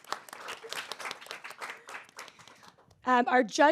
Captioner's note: audience applauds